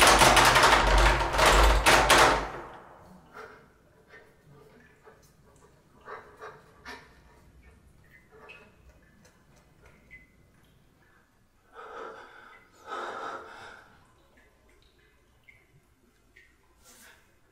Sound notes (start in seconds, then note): 2.4 rattling stops; 3.7 short panicked breathing; 8.2 water dripping; 11.6 anxious heavy breathing; 14.5 water dripping